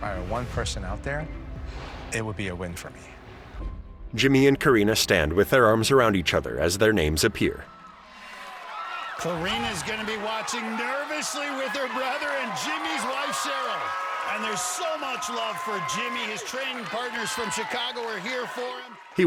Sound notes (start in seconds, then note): 13.5 cheering; 18.5 uplifting music